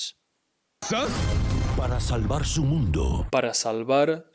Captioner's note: speaking in Spanish